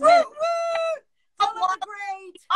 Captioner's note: cheering